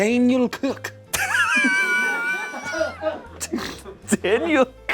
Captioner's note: laughs